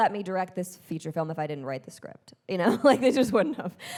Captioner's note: chuckles